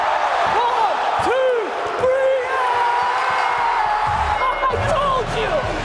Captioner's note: yelling